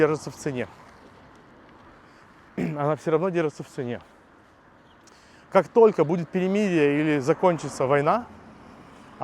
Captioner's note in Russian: откашливается